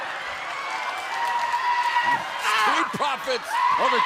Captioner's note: crowd cheering